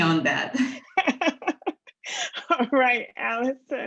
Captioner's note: laughing